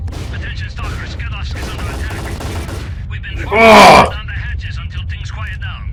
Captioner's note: Beard over the radio